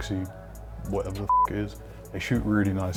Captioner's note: beep